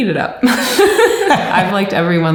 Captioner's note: laughing